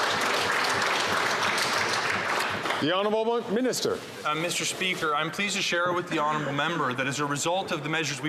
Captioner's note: some Applause